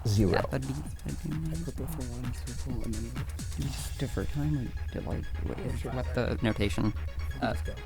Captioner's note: wispering